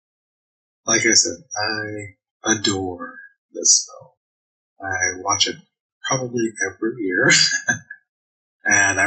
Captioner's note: chuckling